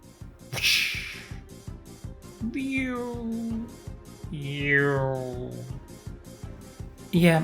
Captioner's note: random ninja noises